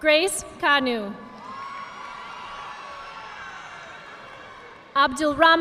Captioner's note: audience applauding